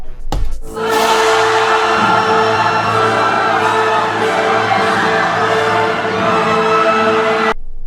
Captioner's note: screams of the damned